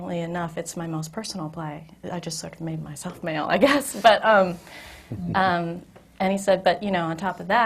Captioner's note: laughs